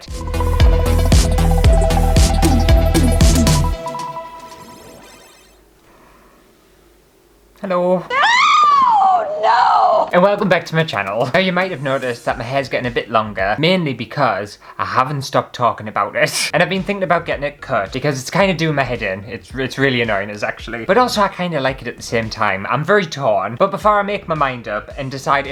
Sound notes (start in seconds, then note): 0.0 intro Music; 8.0 hysterical Screaming